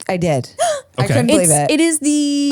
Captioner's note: gasps